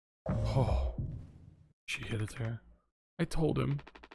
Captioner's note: sighs